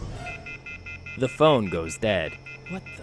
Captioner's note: the phone goes dead